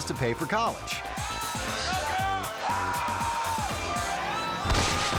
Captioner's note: audience cheering; lively music; crashing